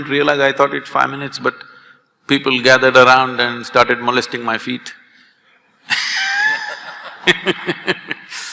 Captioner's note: laughter